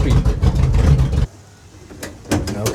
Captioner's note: engine noise